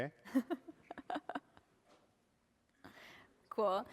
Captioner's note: laughter